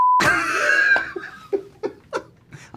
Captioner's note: laughs